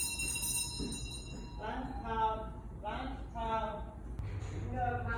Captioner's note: rings